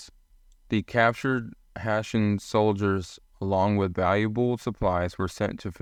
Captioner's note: voiceover